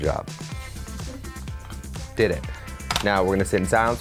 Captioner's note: audience member laughing